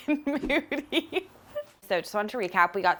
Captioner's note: laughs